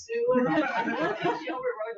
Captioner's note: people laugh